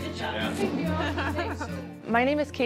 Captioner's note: laughs